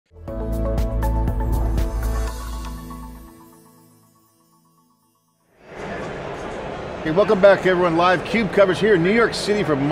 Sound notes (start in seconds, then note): 0.1 upbeat music; 5.5 indistinct crowd noise